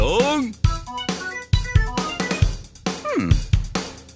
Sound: strange melodic noises

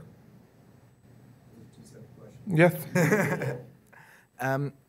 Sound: laughs

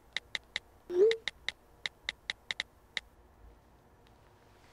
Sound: phone clicking; text swooshing

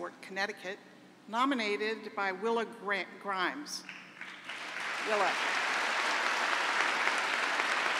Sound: applause

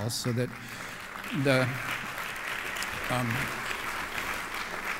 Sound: applause

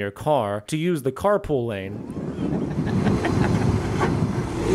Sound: hehehehe

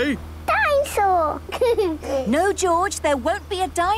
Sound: giggles

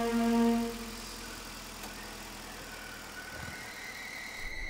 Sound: ominous voice

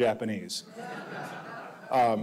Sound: audience laughing

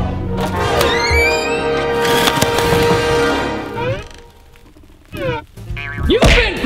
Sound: suspenseful music; door creaks open

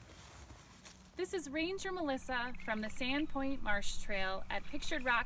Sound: nature sounds

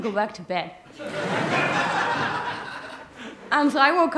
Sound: laughter

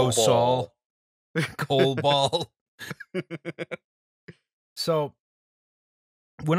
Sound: laughter

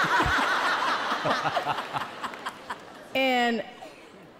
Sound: all laughing; laughs loudly

